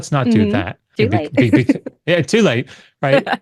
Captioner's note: laughs